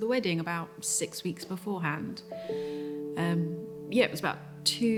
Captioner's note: inhales deeply